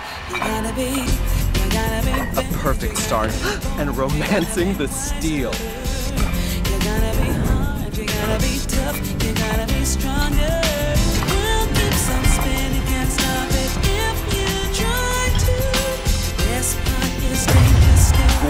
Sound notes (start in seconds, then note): 3.3 crowd gasp